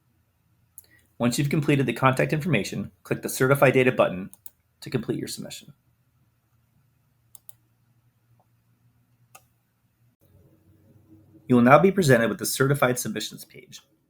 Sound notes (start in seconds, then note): 7.3 mouse clicks